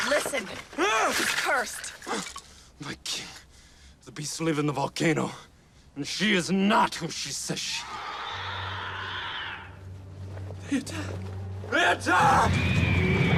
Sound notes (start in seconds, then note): 7.8 creatures screeching